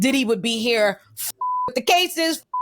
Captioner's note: beep